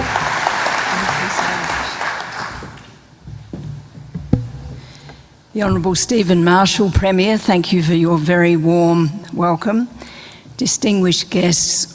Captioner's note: applause